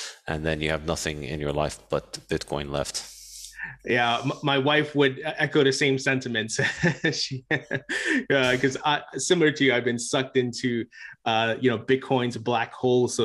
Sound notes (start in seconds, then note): 6.6 laughing